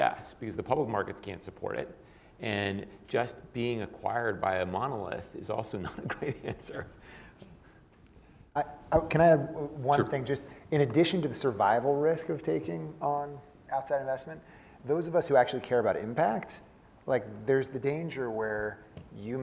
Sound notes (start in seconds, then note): 8.3 laugh